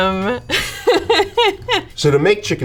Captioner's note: laughing